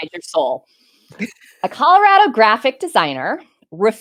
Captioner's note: chuckles